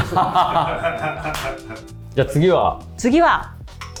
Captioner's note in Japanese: 笑い